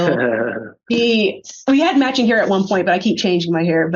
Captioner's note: giggles